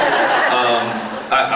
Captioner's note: laughs